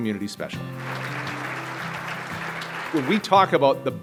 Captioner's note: audience clapping